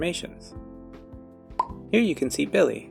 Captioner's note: pop